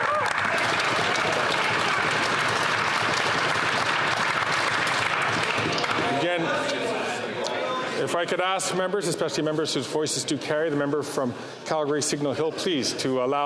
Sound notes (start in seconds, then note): 4.3 some Applause